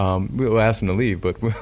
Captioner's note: laughing